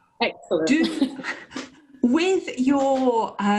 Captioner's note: laughter